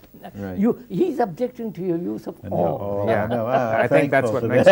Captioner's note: laughs